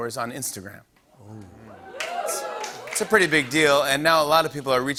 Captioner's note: cheers